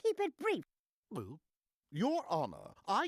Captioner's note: gulping